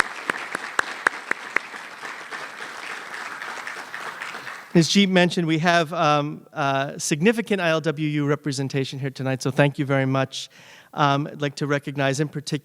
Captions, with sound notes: [ APPLAUSE ] AS SHE MENTIONED, WE HAVE A SIGNIFICANT ILW REPRESENTATION HERE TONIGHT SO, THANK YOU VERY MUCH.